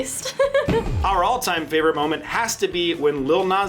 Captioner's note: laughs